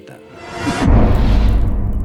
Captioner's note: impact